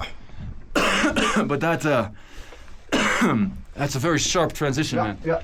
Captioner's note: coughs